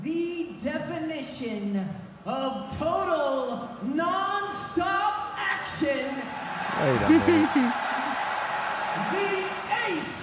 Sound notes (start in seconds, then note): 6.2 audience cheering; 6.3 audience applauding